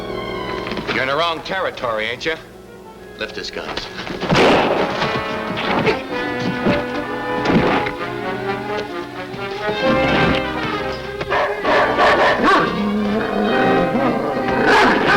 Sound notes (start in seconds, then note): 4.2 bang; 6.2 scuffling; 11.2 barking; 11.2 growling